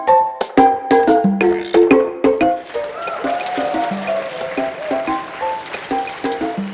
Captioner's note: audience clapping